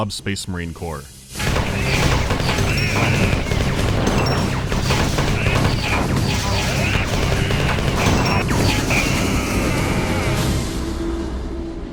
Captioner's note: sounds of cyborg-on-Bob violence